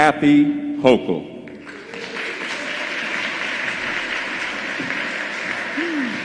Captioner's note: applause